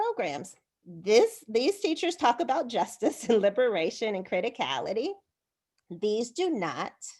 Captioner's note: laughter